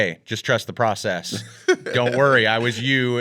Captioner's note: laughs